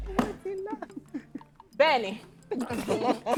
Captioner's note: laughs